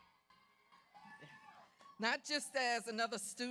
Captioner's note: audience cheers